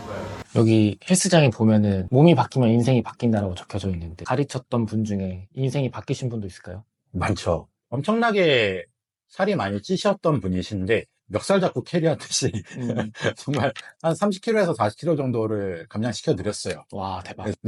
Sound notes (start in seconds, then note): 12.4 laughs